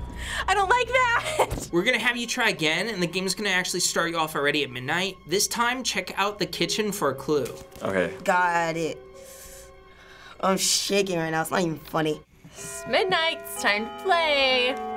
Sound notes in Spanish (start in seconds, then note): 9.3 escalofríos; 12.6 repique del reloj